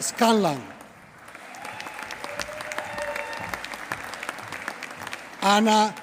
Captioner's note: applause